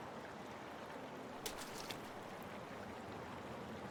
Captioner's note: water splashing